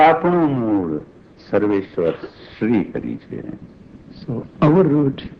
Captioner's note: speaking foreign language